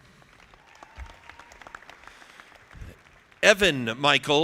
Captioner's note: audience clapping